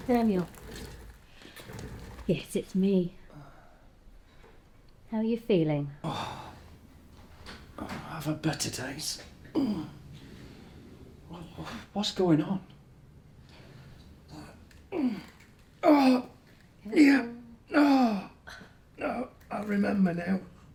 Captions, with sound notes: - Daniel, yes, it's me. How are you feeling? - (moaning) Oh, I've had better days. What's going on? (groaning) - Careful. - (groaning) Yeah. (groaning) No, I remember now.